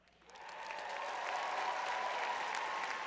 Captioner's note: applause; cheers